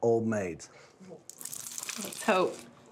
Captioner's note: crunching sound